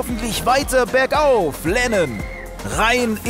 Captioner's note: Pfiff